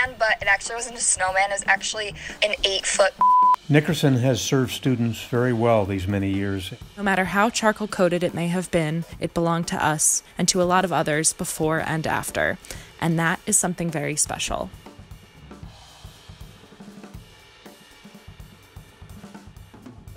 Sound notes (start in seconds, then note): 3.1 beep; 14.9 upbeat drum music